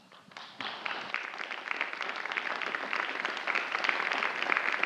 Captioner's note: audience applauding